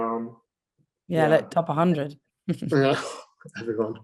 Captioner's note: laughing